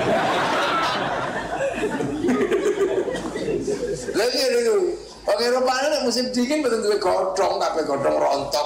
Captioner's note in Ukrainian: Сміється